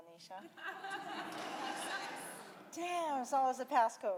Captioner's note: audience laughing